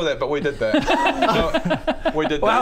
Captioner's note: grossed-out laughter